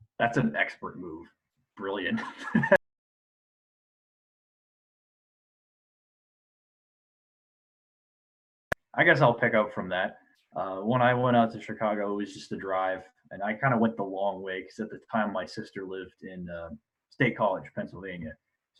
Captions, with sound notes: - That's an expert move. Brilliant. (laughs) I guess I'll pick up from that. When I went out to Chicago, it was just the drive. And, I kind of went the long way, because at the time, my sister lived in State College, Pennsylvania,